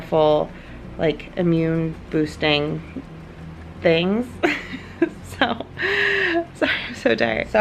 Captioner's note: laughs